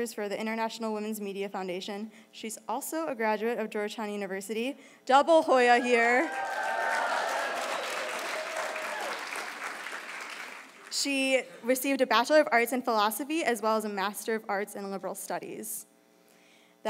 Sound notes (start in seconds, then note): 5.7 crowd cheering